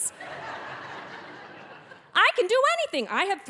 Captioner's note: audience laughing